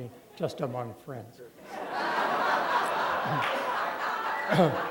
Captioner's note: laughter